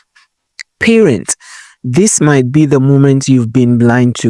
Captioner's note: voiceover